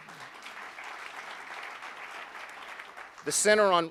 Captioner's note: applauding